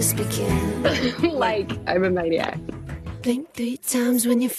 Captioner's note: laughter